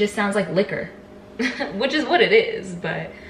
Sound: laughs

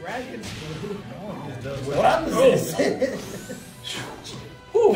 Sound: laugh

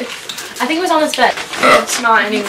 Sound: burps

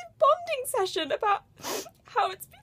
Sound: sniffs

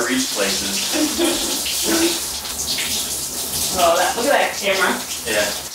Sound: laughing

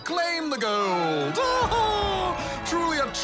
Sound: laughs

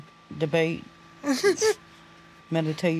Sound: chuckles

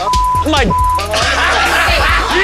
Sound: beep; laughs loudly

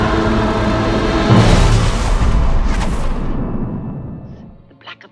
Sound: thunder rumbles

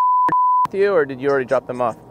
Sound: beep

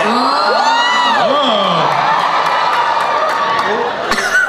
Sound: audience cheers

